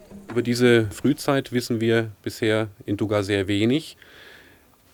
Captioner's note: speaking German